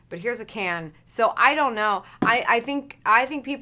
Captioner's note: can thuds